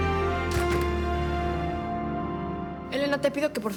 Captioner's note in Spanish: sonido al cerrar la puerta